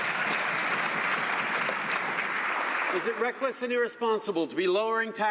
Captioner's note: some Applause